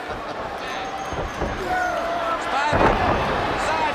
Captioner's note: crowd chatter